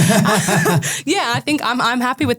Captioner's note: group laughing